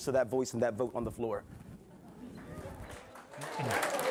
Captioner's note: scattered applause